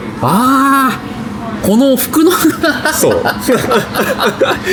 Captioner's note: laughs